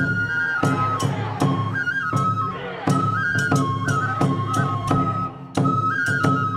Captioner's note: dancers chanting in foreign language